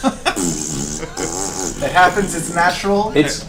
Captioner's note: all laugh; fart sound